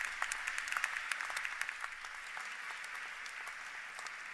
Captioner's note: applause